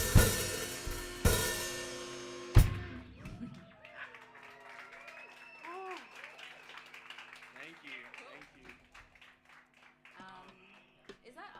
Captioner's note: applause